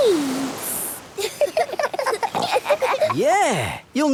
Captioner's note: giggling